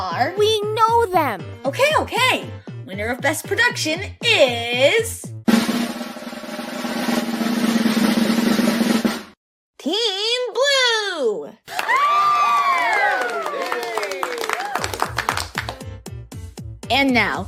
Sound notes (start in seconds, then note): 5.4 drumroll; 11.6 uproarious applause and cheering